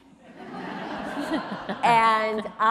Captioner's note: audience laughs